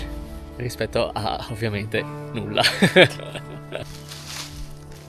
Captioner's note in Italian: risate